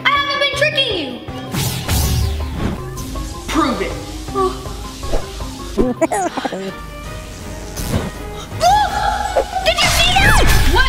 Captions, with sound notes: I haven't been tricking you. - Prove it. (elf laughs) - Look, did you see that?